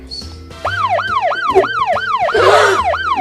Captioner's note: siren blaring; gasps